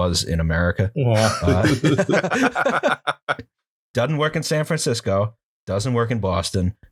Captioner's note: laughter